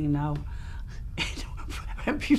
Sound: laughs

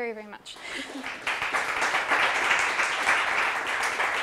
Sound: applause

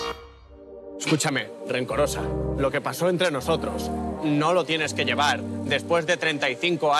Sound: strained

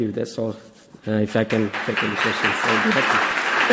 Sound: audience applause

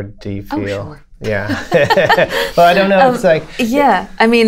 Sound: laughter

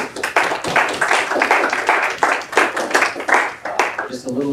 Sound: applause

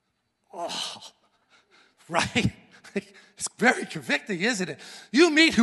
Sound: scoffs

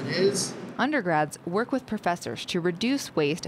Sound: voiceover

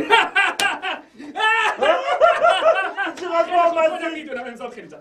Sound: fake celebrating sound

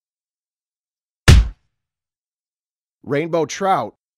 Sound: punch sound

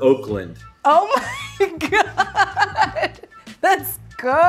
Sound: laughing

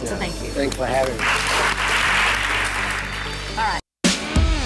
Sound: clapping

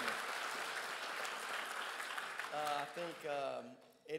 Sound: crowd applauds

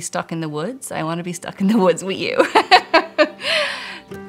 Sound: laughing; light-hearted music

